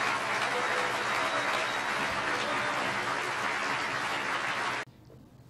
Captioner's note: clapping